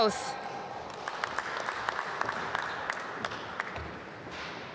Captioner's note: applause